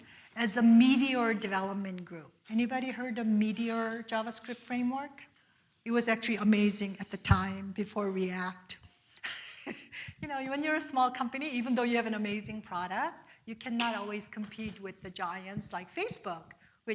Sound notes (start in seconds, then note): 9.2 giggles